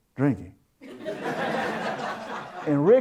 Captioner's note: audience Laughter